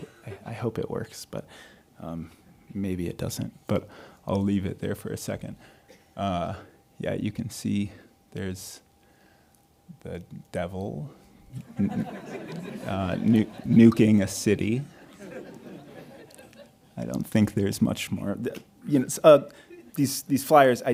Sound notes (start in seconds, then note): 11.6 audience laughing